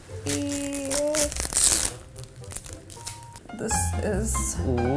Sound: film ripping

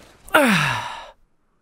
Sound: exhales

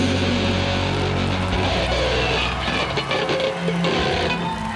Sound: crowd cheering

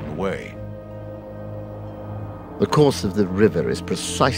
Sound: British accent

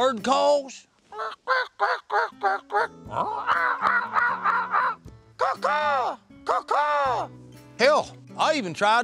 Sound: bird calls

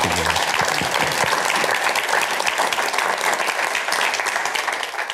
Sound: applause

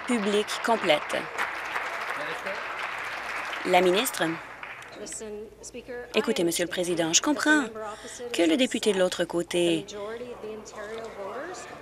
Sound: applause

